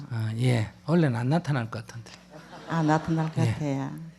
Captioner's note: audience Laughter